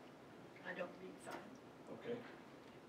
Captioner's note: voiceover